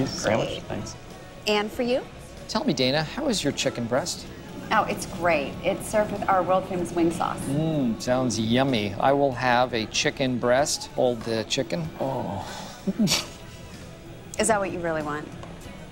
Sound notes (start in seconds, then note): 10.8 groans; 10.8 laughs